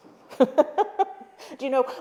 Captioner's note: laughs